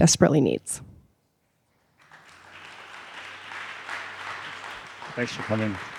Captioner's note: audience applauds